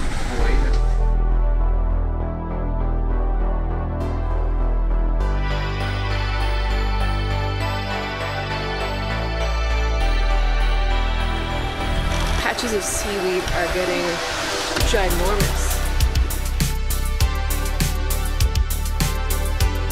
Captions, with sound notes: (water splashing) - Patches of seaweed are getting ginormous.